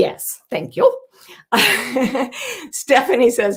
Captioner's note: chuckles